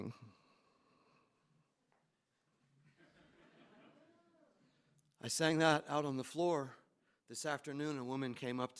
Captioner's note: laughter